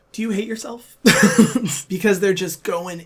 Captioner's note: laughs